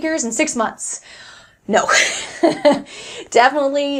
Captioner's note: laughs